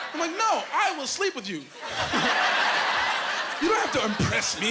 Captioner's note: laughing